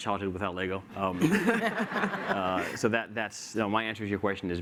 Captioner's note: laughter